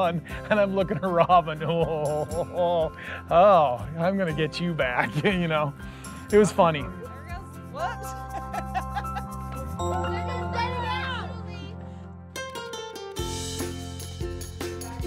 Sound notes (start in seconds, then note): 8.2 laughs